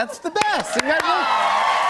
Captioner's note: cheers and applause